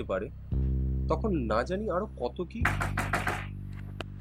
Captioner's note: knock on the Door